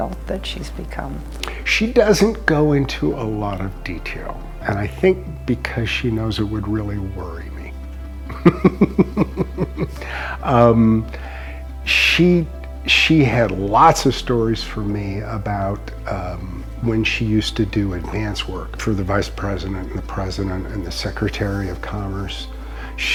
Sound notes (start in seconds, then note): 8.3 laughs